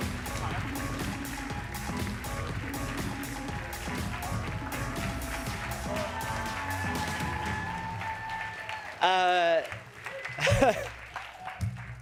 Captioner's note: cheers and applause